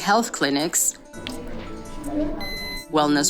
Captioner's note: thermometer beeps